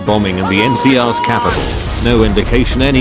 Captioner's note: explosion